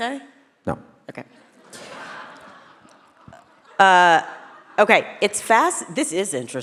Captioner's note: audience laugh